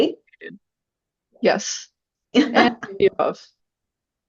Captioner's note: laughs